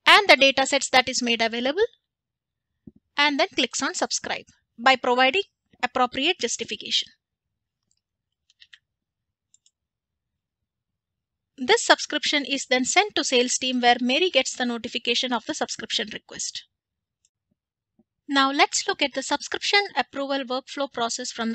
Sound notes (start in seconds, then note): 8.1 keypads clicking